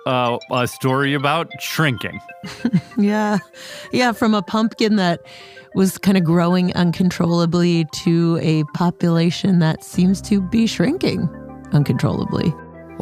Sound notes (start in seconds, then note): 2.5 laughs